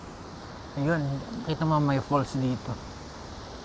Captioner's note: waterfall